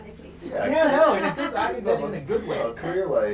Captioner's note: laugh